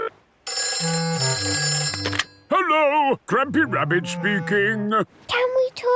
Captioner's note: phone ringing